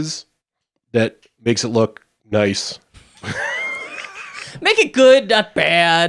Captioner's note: chuckling